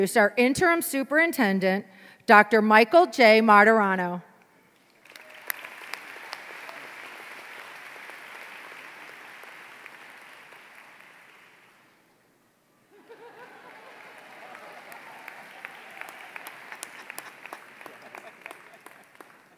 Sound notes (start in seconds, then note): 4.8 applause